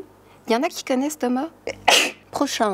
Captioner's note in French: éternuement